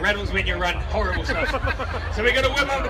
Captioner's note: crowd laughs